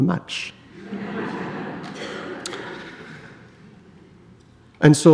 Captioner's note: audience laughs